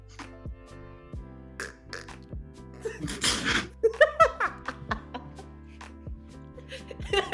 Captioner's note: does a pretty good duck impression